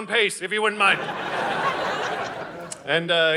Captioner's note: audience laughing